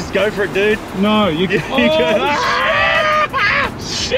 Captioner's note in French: cris de terreur et stupéfaction